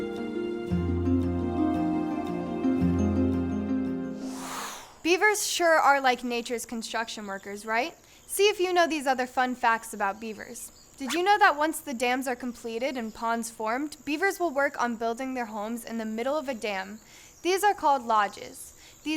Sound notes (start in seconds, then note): 4.2 whoosh